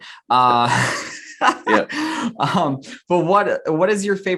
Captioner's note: laughs